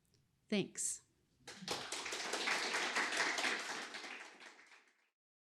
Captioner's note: applause